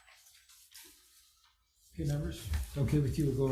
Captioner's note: paper rustles loudly